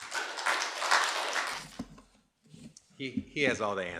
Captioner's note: audience applauding